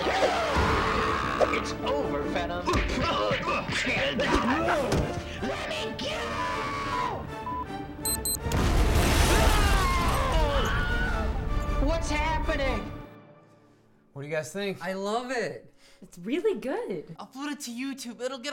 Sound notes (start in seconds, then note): 0.0 scream; 3.1 fight sounds; 8.4 explosion